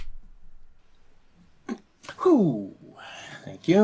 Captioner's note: makes sound of throwing and catching the ball